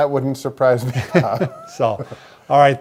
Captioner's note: both laughing